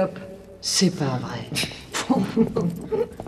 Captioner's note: laughs